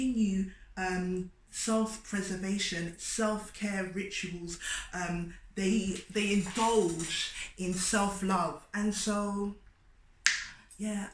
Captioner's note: clicks tongue